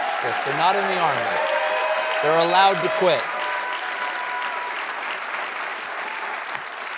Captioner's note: applause